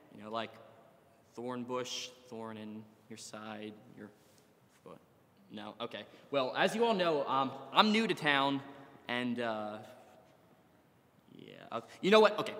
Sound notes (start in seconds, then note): none